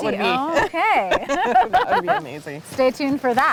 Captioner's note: laughing